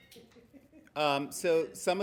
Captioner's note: laughing